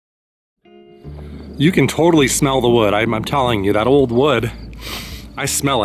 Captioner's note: inhales